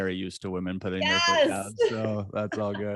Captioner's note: AJ laughs